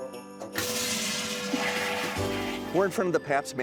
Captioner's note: toilet flushes